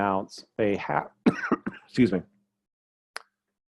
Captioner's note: cough